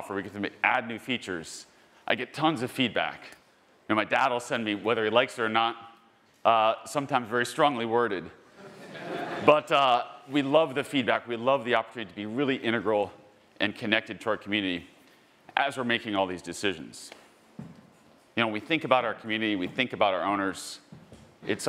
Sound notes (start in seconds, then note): 8.5 attendees laughing